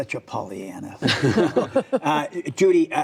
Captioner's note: laughter